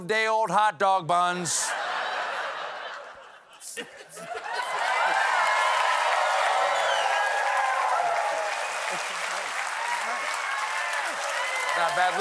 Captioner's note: cheers and applause